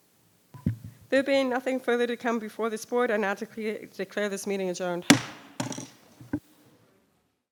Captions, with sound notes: There being nothing further to come before this board, I now declare this meeting adjourned. (gavel taps)